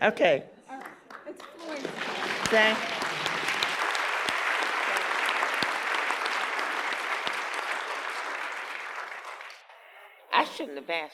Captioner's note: applause